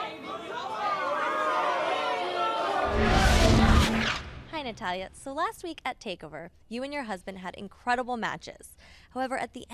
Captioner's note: fans chanting